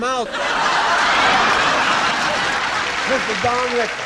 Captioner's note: laughing